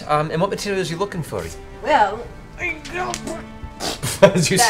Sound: grunts; laughs

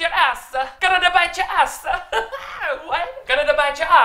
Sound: laughs

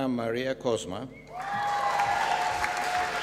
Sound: applause

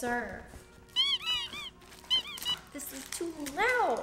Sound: dog toy squeaks

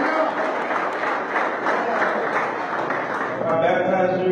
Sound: applause

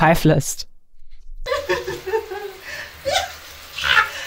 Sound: crying

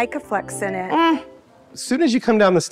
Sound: humming

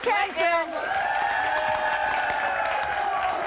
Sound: applause

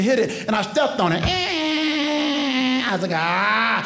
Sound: creaking

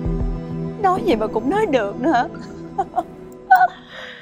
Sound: laughing

